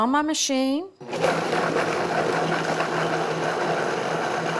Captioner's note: motor whirring